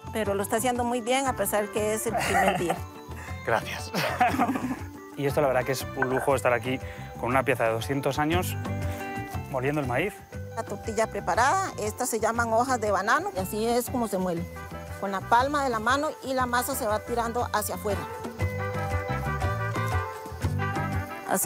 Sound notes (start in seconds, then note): 2.0 laughs